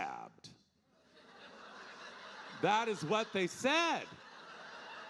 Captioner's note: audience laughing